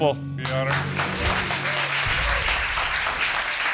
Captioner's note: audience applauds